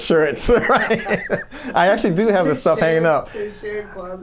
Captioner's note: laughs